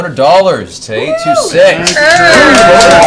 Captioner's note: all cheer